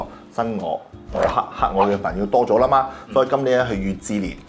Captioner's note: fire